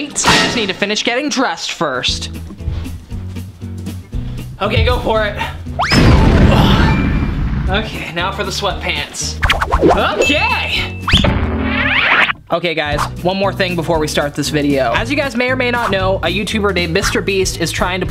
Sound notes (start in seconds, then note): 4.6 upbeat music; 5.9 explosion